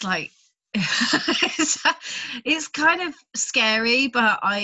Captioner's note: laughs